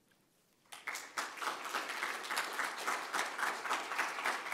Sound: applause

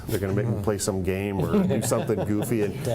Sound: laughter

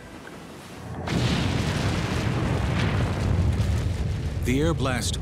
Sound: eruption

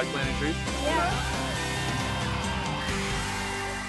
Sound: cheers

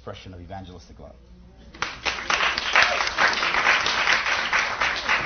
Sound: applause

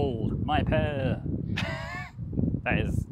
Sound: laughing

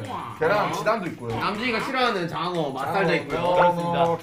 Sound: laugh

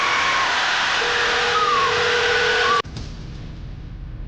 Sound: phone rings; suspenseful electronic music

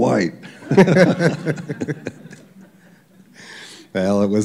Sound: laughter

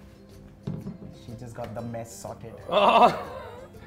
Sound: chuckles

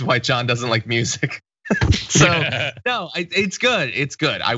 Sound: laugh

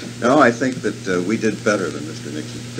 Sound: laughs

